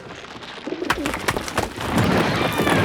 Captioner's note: twig snaps; rocks crumble